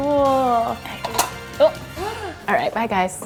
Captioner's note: corker snapping